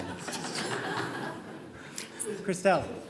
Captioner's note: audience laughing